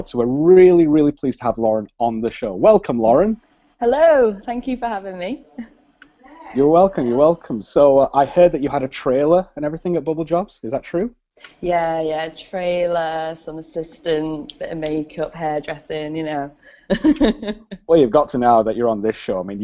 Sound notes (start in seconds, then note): 16.8 laughs